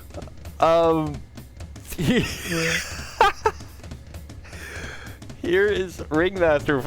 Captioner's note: more laughing; breaks out into more laughing